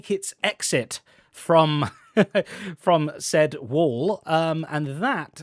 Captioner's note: laughs